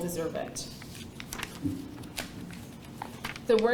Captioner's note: paper rustling